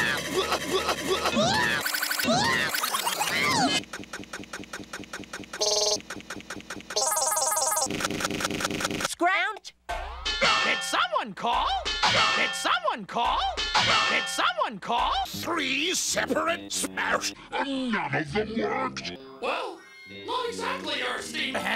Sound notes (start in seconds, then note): 7.3 pitch shifting up and down; 10.4 clang; 13.7 clang